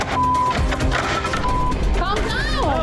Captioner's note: plates clattering